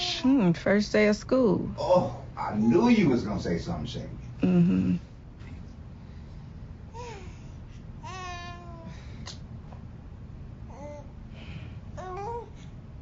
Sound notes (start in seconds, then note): 8.0 baby cooing